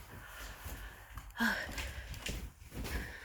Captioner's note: sighs